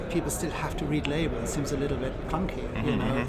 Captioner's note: laughs